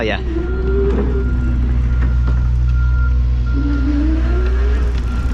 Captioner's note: motor engine roaring